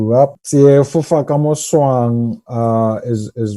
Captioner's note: speaks in setswana